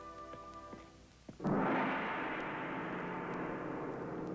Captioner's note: gong banging